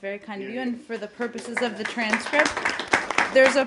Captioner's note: applause